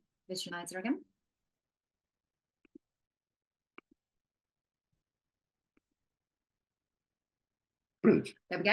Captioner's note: silence